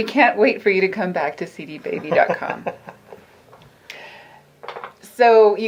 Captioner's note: laughing